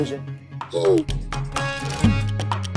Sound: grumbling

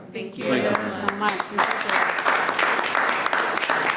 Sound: applause

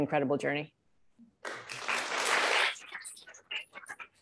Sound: applause

